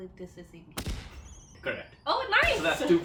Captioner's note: firework noise